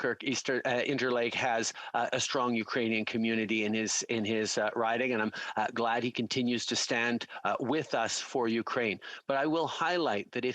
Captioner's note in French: voix de l'interprète